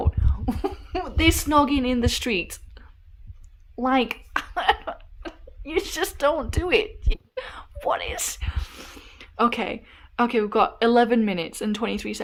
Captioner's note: laughs in disbelief